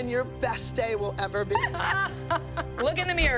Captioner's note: laughter